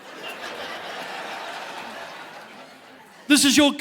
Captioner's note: audience laughing